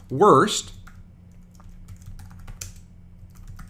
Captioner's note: typing